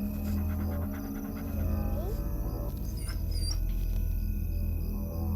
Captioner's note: dog whining